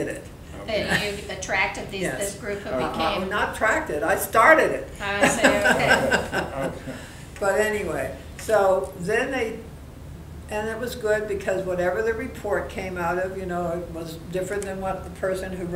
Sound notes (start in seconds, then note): 5.1 laughing